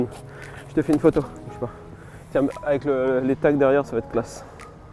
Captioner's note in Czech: mluví francouzsky